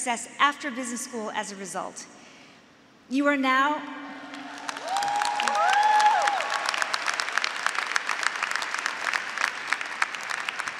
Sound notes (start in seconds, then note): 4.4 graduates and faculty applauding